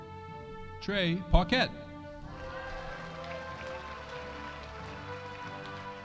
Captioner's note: audience applauding